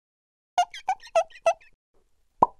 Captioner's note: marker squeaking; pop